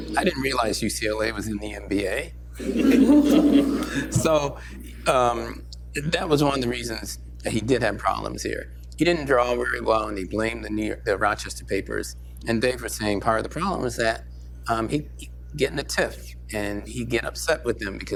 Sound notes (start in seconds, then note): 2.6 laughter